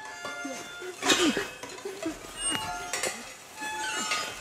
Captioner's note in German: Unbehagliche, schrille Klänge